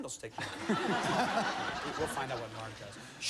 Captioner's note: laughter